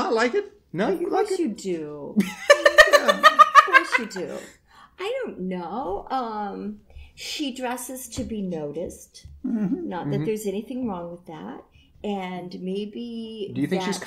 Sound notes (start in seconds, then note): 2.3 big laughter